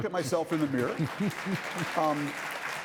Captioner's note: audience applauding